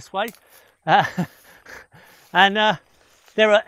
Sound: chuckling

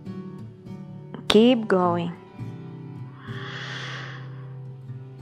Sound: inhales

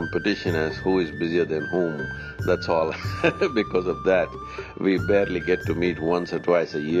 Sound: laughs

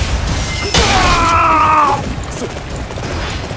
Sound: KO Scream

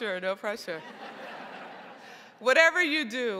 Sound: crowd laughing

